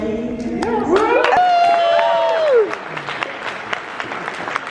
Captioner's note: crowd cheers